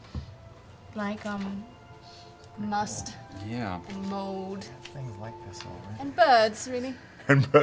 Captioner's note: sniffs; laughing